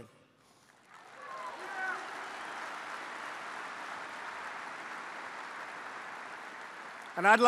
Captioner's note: applause